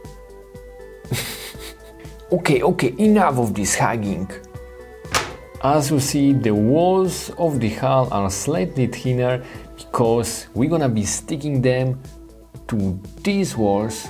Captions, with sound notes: (chuckles) Okay okay, enough of this hugging. As you see, the walls of the hall are slightly thinner because we're gonna be sticking them to these walls.